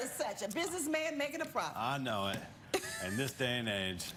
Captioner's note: laughter